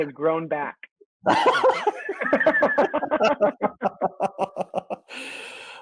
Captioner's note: boisterous laughter